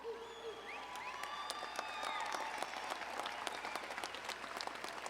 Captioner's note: audience applauding